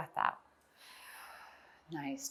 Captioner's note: exhales